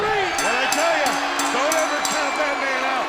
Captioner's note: bell ringing